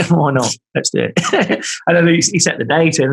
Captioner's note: laughing